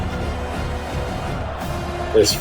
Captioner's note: crowd Noises